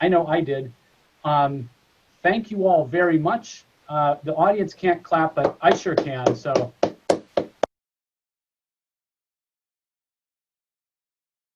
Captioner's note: clapping